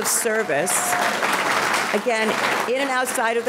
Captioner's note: audience clapping